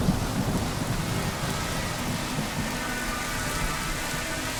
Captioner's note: drones buzzing